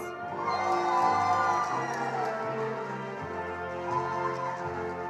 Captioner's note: attendees applauding